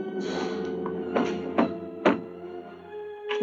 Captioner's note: banging on door